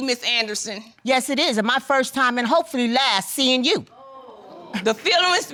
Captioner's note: audience exclaims